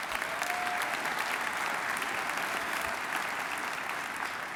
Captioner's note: applause